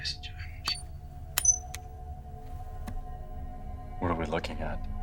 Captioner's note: finger taps